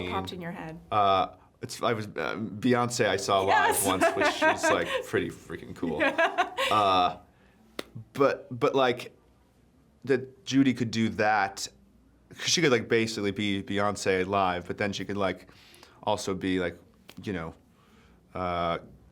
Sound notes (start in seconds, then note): 5.8 laughing